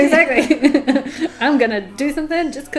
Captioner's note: both laugh